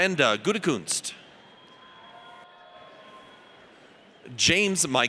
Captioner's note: audience cheers